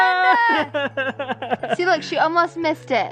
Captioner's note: laughs